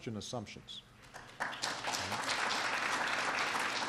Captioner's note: applause